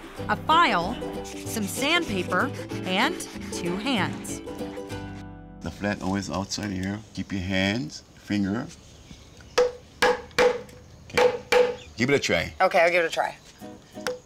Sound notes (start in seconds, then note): 10.0 hammering